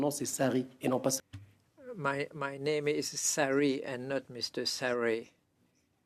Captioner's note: speaking French